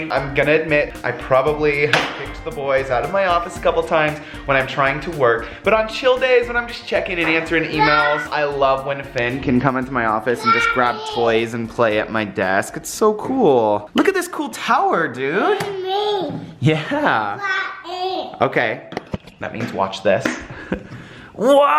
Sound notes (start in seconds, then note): 15.6 babbles